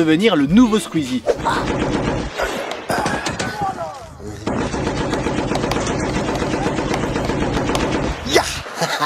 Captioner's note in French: Bruits de jeu vidéo